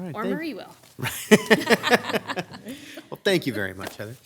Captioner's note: laughs